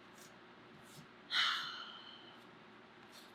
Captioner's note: sighs